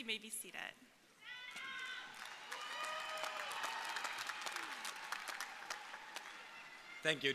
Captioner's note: crowd cheering; crowd applauding